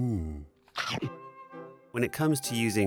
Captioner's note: chomp